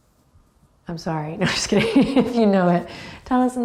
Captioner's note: laughs